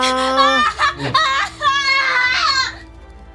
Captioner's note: shouting as he leaves his seat